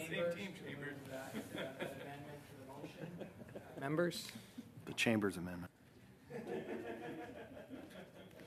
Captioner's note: laughter